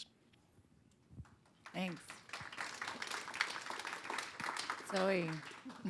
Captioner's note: applause